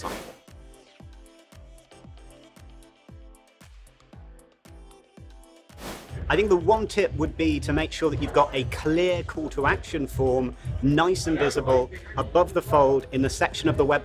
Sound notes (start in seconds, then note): 0.1 abrupt swooshing; 0.1 upbeat music; 5.8 abrupt swooshing